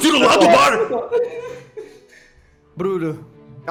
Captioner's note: crying